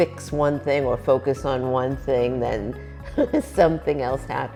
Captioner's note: chuckling